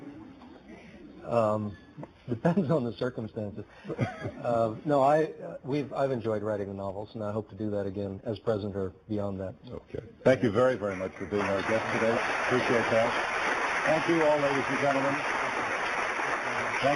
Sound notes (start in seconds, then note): 13.4 applause